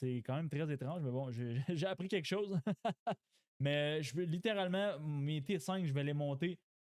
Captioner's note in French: rires